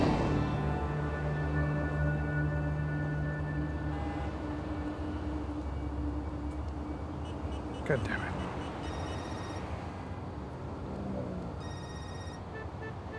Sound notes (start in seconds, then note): 8.8 phone rings